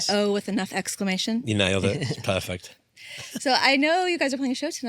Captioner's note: laughs